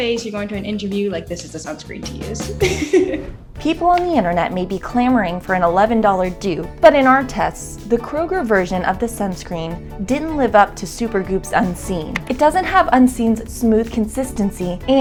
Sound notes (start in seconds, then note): 2.4 laughs